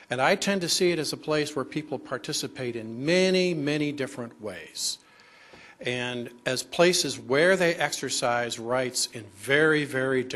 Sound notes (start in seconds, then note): none